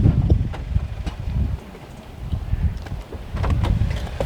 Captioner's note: wind blowing